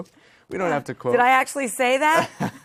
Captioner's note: laughter